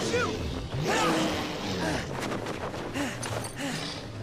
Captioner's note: sphinx growling